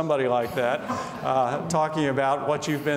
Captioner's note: laughing